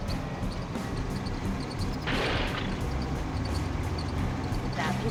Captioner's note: engine bangs